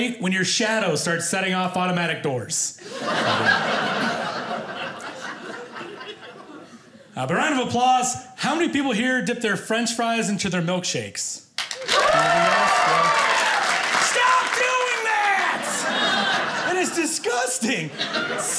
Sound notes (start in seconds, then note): 2.8 audience laughing; 11.7 audience cheering